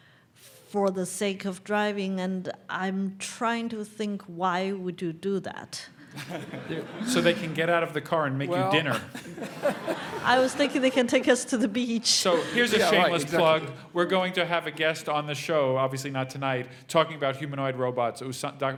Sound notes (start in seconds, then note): 5.9 laugh